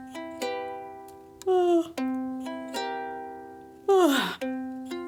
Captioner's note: Dexter sighs; Rosie yawns